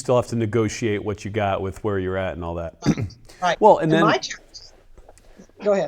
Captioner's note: clears throat